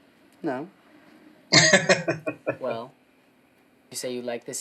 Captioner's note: laughing